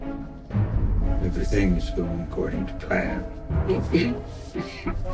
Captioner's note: coughs